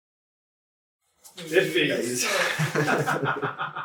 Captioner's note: laughter